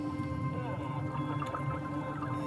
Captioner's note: radio signaling